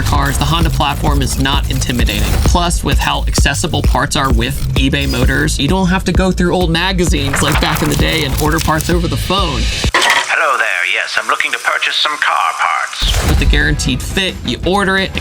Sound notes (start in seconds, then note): 9.9 transatlantic Voice